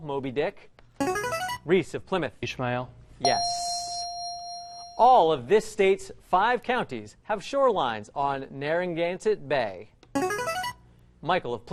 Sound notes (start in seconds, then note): 1.0 ringer; 3.2 ding; 10.2 ringer